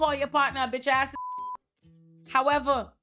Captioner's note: beep